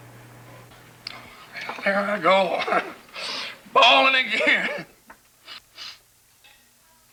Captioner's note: chuckles